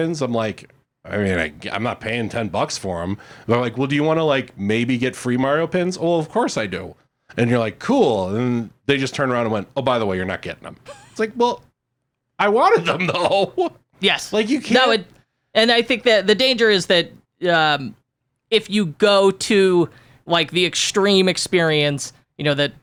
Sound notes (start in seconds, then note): 12.8 giggles